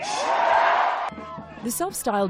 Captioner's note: cheering